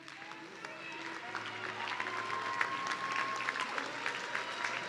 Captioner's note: audience cheering